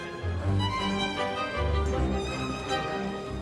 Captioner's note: crowd chatter